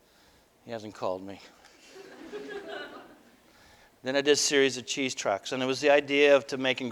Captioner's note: audience: Laughter